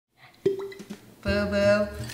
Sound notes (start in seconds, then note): 0.4 cork popping